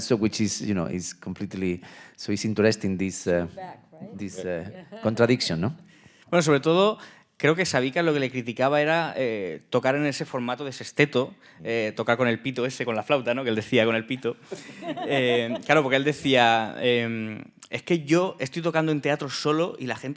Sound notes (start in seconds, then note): 6.6 speaking in Spanish; 15.3 speaking in Spanish